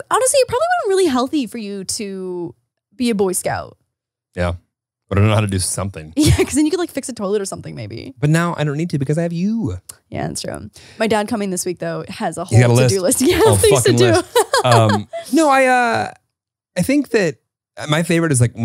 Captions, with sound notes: - Honestly, it probably would be really healthy for you to be a Boy Scout. - Yeah. Then I could know how to do something. - Yeah, 'cause then you could like, fix a toilet or something maybe. - But now I don't need to because I have you. - Yeah, that's true. My dad coming this week though, has a whole to-do list yeah, of things to do (laughs). - No, I think that, my favorite is like,